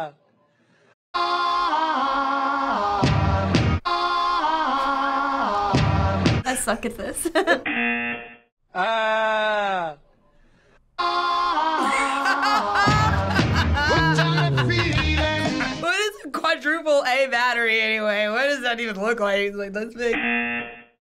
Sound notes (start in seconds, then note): 7.3 laughing; 7.6 buzzer; 8.5 man speaking flatly; 11.5 laughing; 20.1 buzzer